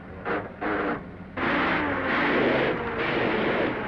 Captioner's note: engine sputtering